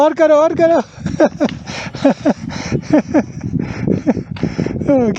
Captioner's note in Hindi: हँसते हुए